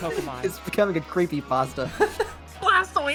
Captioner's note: laughs; someone laughs